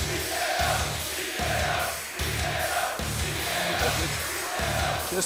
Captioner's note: crowd cheering